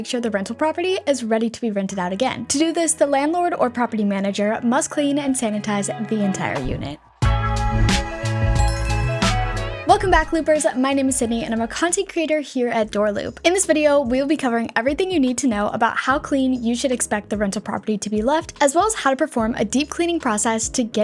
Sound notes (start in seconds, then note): 7.2 upbeat music; 8.5 bell dings